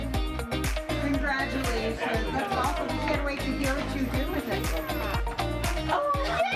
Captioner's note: woman off-screen